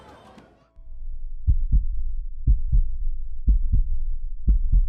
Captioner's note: tense heartbeat